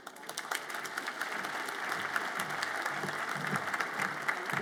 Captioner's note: audience applauds